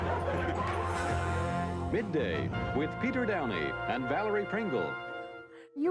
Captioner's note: laughter